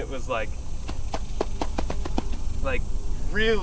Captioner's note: feet stomping